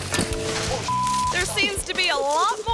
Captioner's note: biker thuds; bike thuds; beep